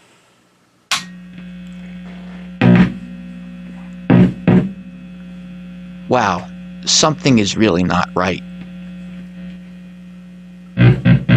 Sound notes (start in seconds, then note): 0.9 buzzing sound